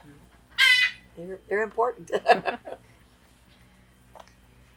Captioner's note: laughs